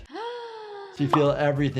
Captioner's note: gasping